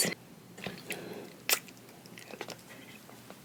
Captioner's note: kiss